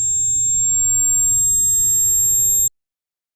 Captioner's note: tinnitus